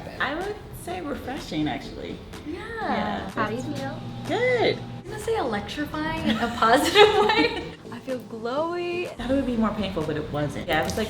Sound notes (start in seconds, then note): 6.2 laughs